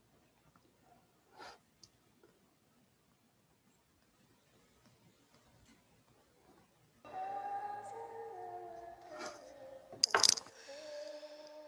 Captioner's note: ethereal Sound Plays